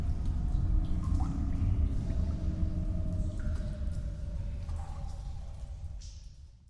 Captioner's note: cave noises